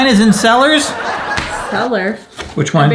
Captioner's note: audience laughing